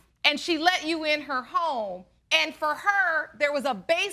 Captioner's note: none